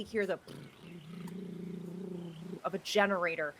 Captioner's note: mimics engine murmuring